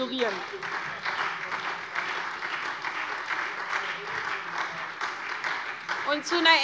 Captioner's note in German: Beifall SPD